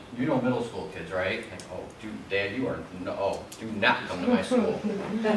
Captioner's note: audience laughs